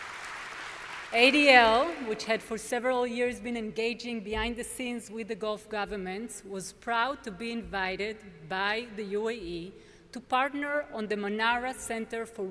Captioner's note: applause